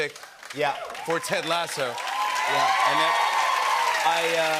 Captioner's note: cheers and applause